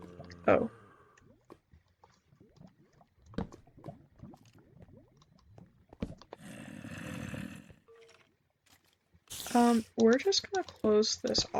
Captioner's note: zombie groans